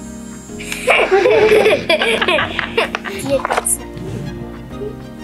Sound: laughing

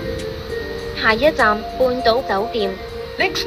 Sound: Cantonese

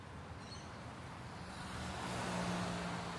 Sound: car passes

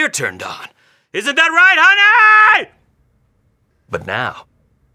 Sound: yelling

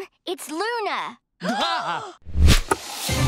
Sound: gasping

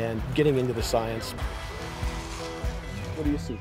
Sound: shovel slicing sand

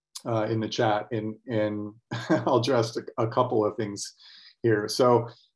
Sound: brief laughter

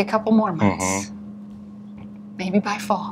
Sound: hums

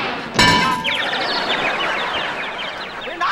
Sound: chirping

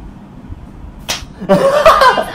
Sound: slap

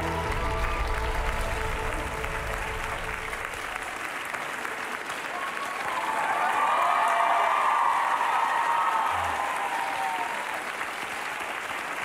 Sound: cheers and applause

